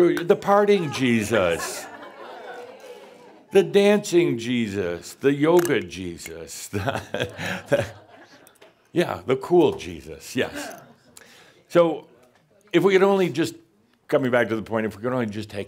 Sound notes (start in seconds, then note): 6.7 Adamus chuckles, someone says “The cool Jesus”